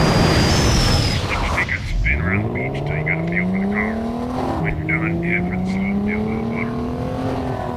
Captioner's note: vehicle revving; chatter over radio